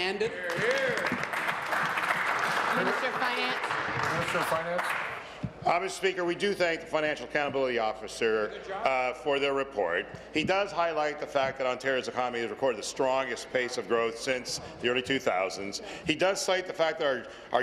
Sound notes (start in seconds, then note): 5.4 applause